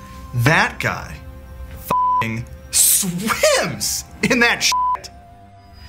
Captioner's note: beep